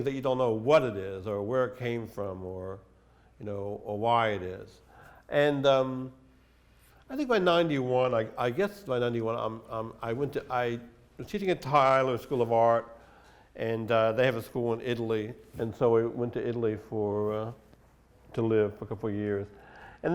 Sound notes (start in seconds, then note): none